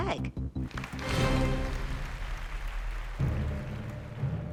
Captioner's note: applause